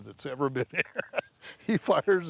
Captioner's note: laughs